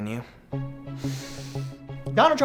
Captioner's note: inhales